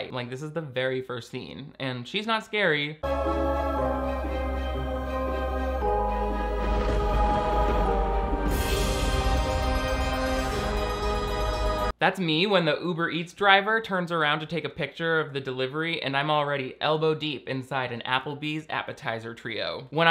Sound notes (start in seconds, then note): 3.0 spooky music; 6.3 thunder cracking